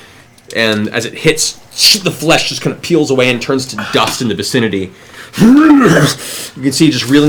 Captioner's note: pained roar